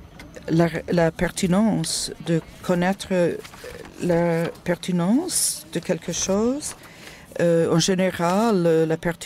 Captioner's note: en français